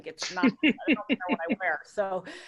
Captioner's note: laughing